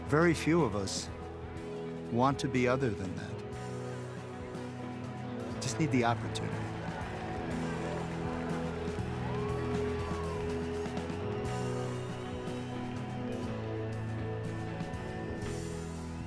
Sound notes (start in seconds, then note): 8.2 cheering and applauding; 16.0 song ends